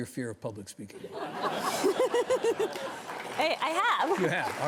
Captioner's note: audience chuckles; Ashley chuckles